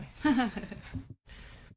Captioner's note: laughter